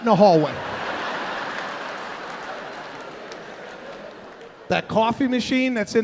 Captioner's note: audience laughing